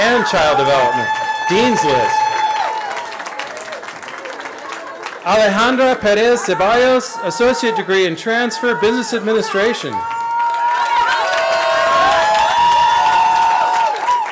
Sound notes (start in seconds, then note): 4.7 cheering; 10.3 cheering